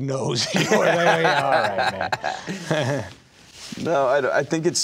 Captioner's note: laughing